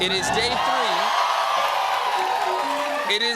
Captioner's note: cheers and applause